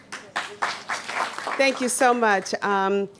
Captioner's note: applause